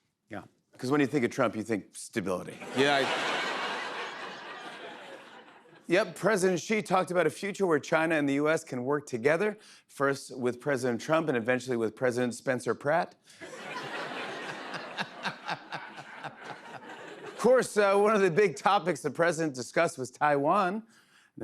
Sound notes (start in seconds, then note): 2.6 laughter; 13.4 laughter